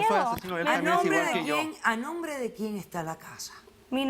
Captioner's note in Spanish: Hablan al unísono